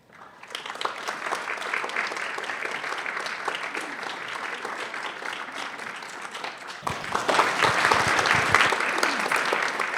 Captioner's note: applause